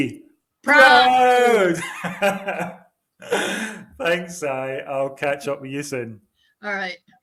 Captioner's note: laughs